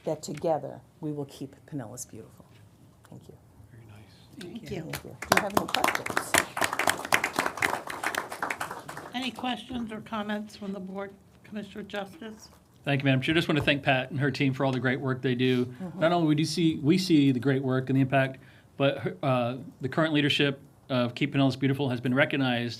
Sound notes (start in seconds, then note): 8.3 applause